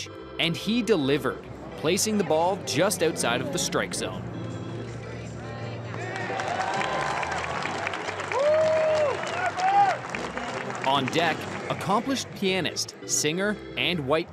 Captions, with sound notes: And he delivered, placing the ball just outside of the strike zone. [applause and cheering] On deck, accomplished pianist, singer, and white cane